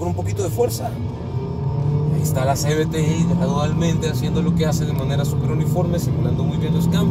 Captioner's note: engine roaring